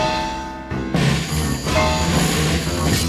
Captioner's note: sawing sound